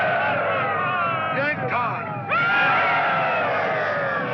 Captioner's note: indians hollering